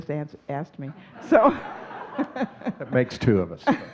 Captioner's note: audience laughing